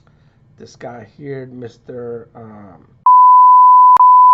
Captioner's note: beep